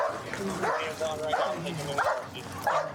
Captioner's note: dog barking